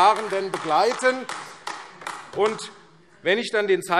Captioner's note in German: Beifall AfD